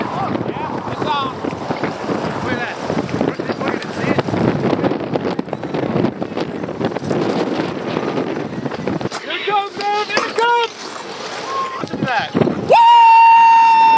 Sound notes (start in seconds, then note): 5.0 wind whooshing